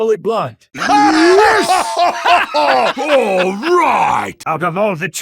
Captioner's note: tremendous approval